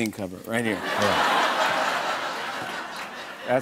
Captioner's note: laughter